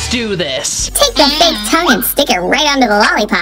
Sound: funny voice

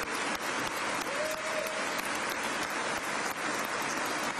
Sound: applause

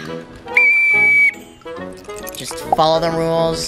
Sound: whistle blows

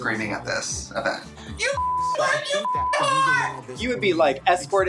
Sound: beep

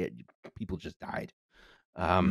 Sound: quieter and matter-of-factly

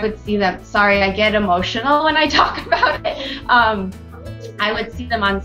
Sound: laughs

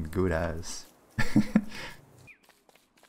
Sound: laughs

